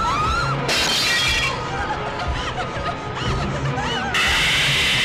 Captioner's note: girls screaming; glass shattering; electric whirring; suspenseful music